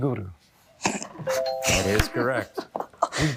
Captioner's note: bell ringing; laughing